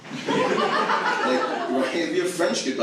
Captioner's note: audience laughs